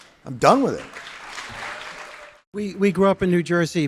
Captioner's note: audience applauding